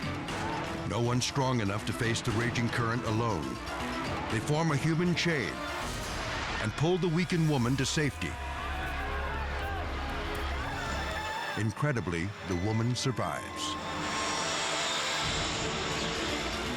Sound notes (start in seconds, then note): 8.7 locals chattering in foreign language; 14.0 dramatic music